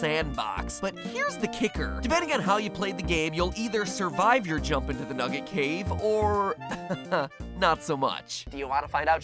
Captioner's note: chuckle